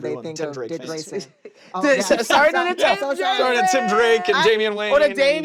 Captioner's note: laughter